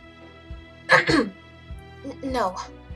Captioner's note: Vivian clears her throat